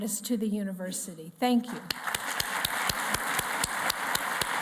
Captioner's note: applause